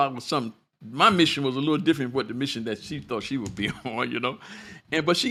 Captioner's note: laughter